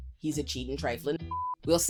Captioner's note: beep